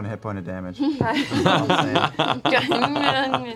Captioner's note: laughter